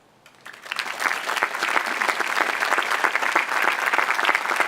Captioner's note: audience applauding